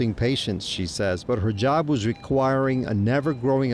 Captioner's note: controls beeping